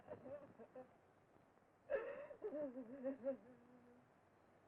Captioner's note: woman sobbing